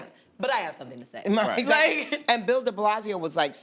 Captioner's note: laughs